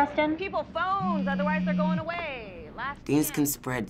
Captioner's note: phone vibrating